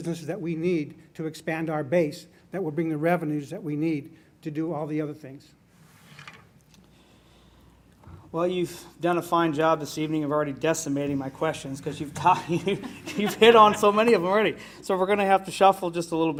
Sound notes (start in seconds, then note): 12.1 laughs